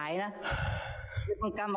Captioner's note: sigh